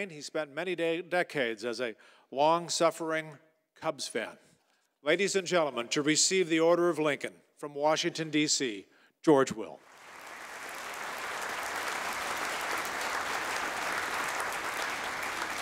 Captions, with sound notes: he spent many decades as a long suffering, Cubs fan. Ladies and gentlemen, to receive the Order of Lincoln, from Washington D.C., George Will. (audience applauding)